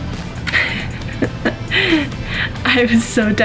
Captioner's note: laughs